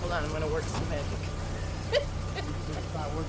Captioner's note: laughs